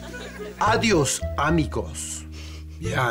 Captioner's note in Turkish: İspanyolca konuşma